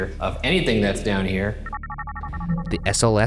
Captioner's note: device trilling